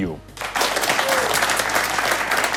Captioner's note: applause